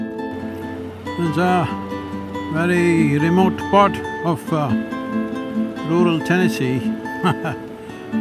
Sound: laughs

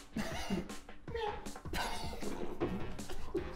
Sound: laughing; meow

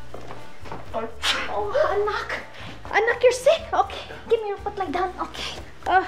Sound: sneezes

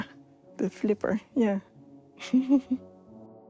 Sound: chuckles

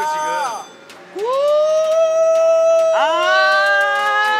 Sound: excited siren ON; siren harmony

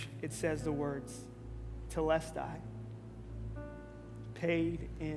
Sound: speaking in Greek

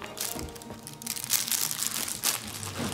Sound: toy crackling

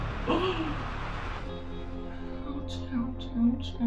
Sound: gasps

